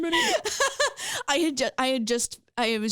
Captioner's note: laughing